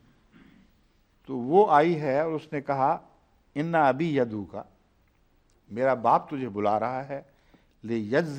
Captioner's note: Arabic